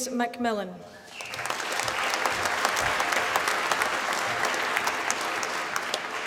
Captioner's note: applause